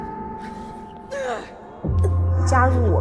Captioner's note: Keo groans and struggles